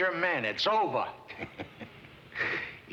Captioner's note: chuckles